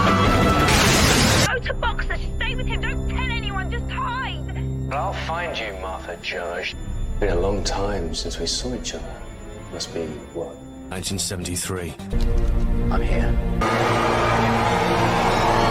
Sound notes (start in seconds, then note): 0.6 explosion